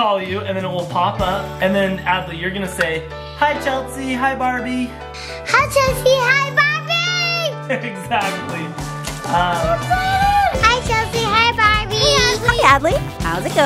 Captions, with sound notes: - Chelsea is going to call you and then it will pop up and then, Adley, you're going to say, "Hi Chelsea", "hi Barbie". - Hi Chelsea, hi Barbie! - (laughing) Exactly. (upbeat music) - Hi Chelsea, hi Barbie? - Hi Adley. - Hi Adley.